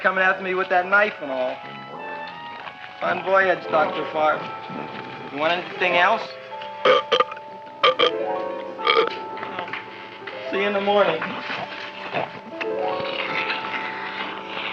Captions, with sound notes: after me with that knife and all. Bon voyage, Dr. Farb. You want anything else? (Audrey Jr. burping) Well, see ya in the morning. (mysterious music)